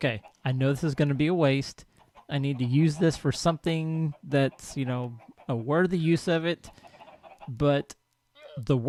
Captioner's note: cow lows; llama snorts; clucking continues; llama calls